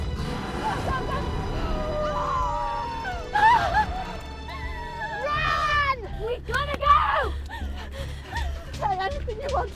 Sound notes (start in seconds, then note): 3.4 both cry